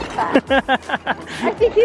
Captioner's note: laughs